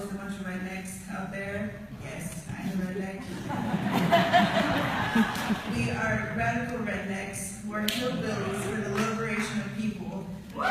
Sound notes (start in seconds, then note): 3.2 laughing